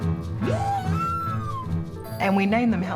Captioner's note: whale trumpets